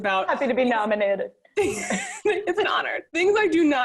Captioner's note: laughs